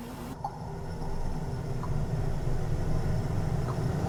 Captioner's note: water drips